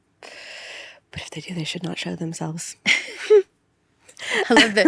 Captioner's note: laughs